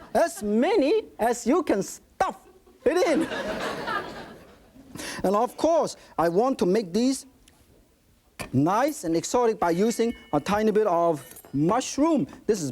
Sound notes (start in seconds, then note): 3.0 audience laughing